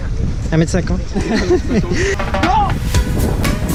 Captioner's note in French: rires